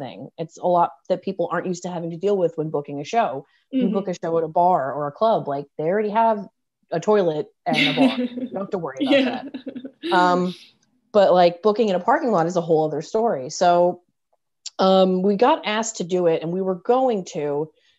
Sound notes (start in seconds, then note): 9.0 laughing